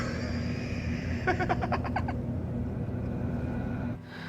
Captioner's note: chuckling